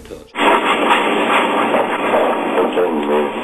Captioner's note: radio static